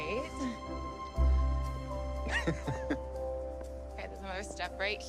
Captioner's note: Ryan chuckling